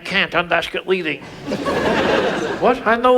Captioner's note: audience laughs